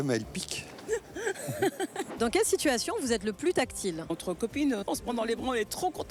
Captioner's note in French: rires